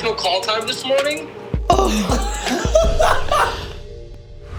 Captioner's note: laughing